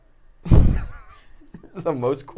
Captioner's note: laughs